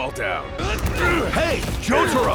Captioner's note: commotion